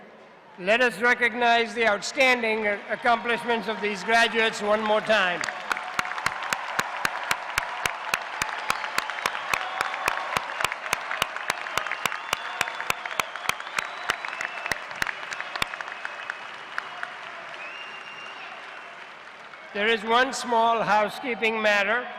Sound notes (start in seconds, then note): 5.5 cheers and applause